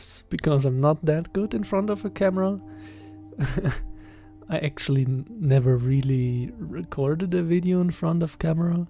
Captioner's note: giggles